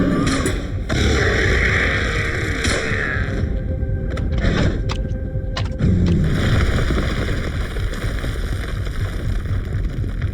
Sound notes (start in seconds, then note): 0.9 shark roaring; 2.7 gun bangs; 4.6 shark growling; 6.4 ground rumbling